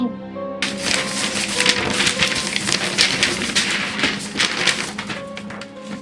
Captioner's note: shuffling papers frantically